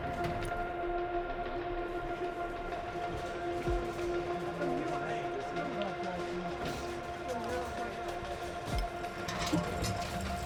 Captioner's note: pulsing music; getting-ready noises; forklift moving